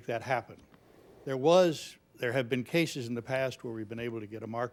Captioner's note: none